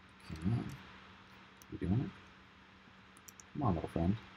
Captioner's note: softly mumbles